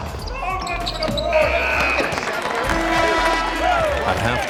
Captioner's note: applause; blast of whistle